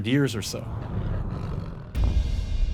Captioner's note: growling